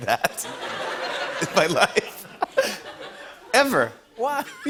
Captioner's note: laughter